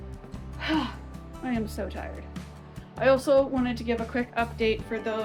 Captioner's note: sigh